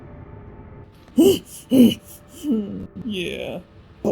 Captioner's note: laboured breathing